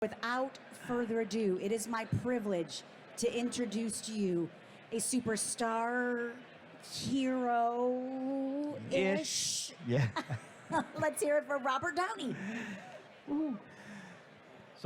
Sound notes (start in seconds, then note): 9.9 laughs; 9.9 host laughing